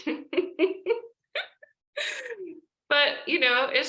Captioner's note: laughs